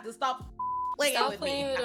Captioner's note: beep